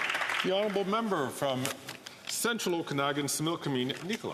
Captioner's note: some Applause